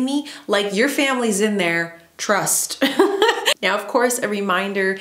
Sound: laughs

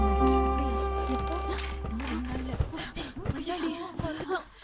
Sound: door opens

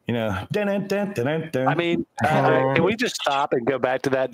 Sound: humming

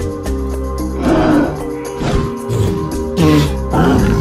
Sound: triceratops grunting and huffing

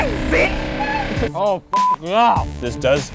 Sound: beep

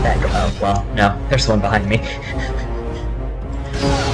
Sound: laughter

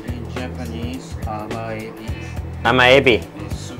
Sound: speaks Japanese

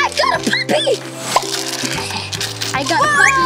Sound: wrapper crinkling; pop

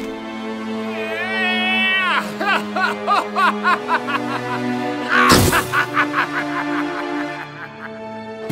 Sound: Gaylord_Steambath laughs maniacally

